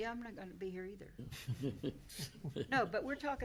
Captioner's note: laughing